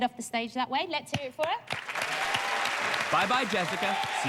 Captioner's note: applause